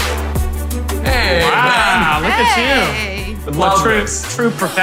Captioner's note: unison greetings